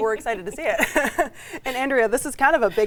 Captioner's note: laughing